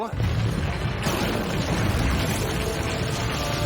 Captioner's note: rumbling